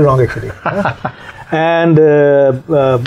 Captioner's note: laughs